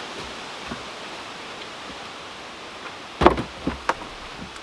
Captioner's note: wood thumping